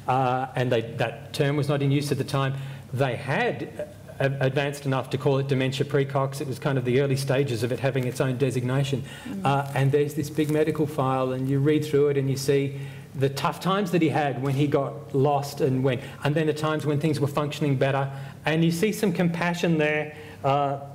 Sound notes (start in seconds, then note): none